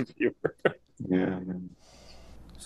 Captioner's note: chuckles